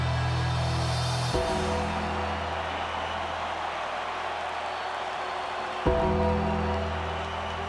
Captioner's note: ominous music; audience cheering